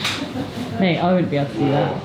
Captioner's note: chuckles